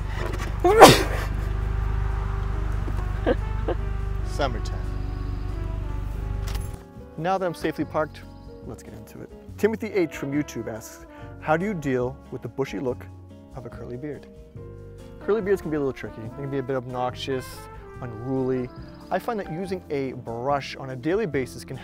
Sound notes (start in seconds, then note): 0.6 sneezing